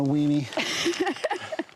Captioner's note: laughing